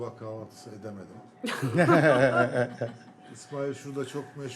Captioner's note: laughter